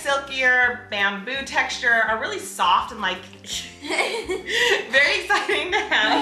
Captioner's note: laughs